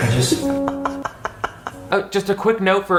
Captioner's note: laughs; somber piano music